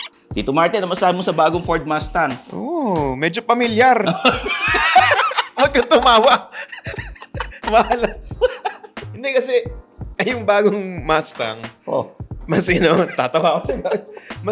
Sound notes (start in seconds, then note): 4.0 both laugh; 7.5 laughing